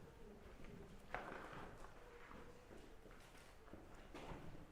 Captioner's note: speaking in foreign language